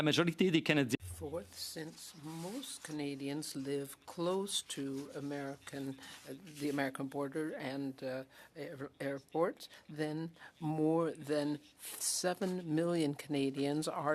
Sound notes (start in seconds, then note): 4.8 speaking French